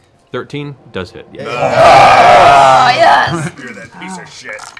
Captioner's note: cheering